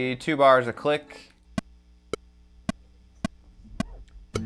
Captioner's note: metronome